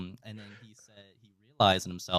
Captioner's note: laughing